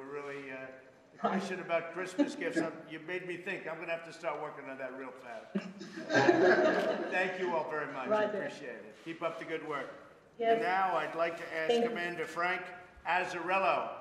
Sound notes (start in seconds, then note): 5.5 laughter